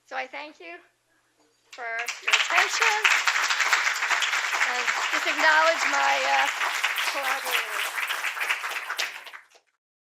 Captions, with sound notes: So I thank you for your attention. [APPLAUSE] And just acknowledge my collaborators.